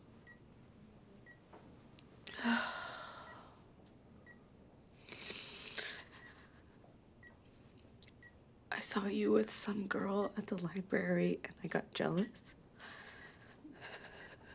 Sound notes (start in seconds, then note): 2.2 Ashley sighs; 5.0 Ashley snivels; 13.4 sighs